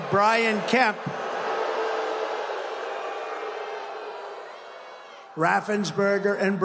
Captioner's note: crowd booing